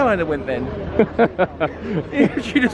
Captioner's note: laughing